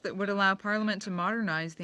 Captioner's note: speaking French